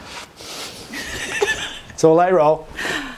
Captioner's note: laughs